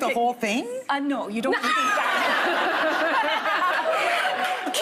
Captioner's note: laughing